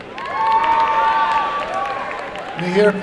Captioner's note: applause and cheering